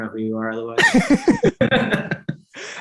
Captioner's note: both chuckling